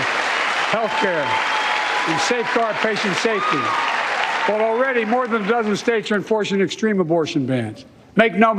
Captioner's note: cheers and applause